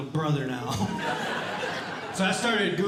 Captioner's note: audience Laughing